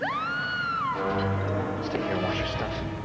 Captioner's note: Sarah screams